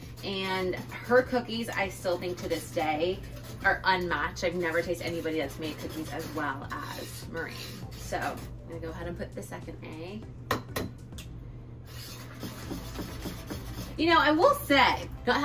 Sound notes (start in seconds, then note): 11.2 quiet upbeat music; 11.8 whisk grating